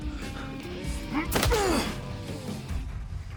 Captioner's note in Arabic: لكمة، نخر